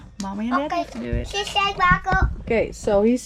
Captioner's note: babbling